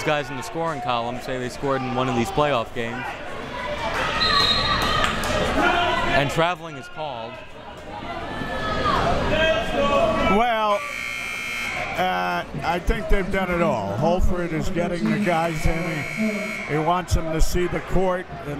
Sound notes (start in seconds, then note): 4.2 whistle tweeting; 7.9 crowd members shouting; 10.7 buzzer ringing; 15.2 buzzer ringing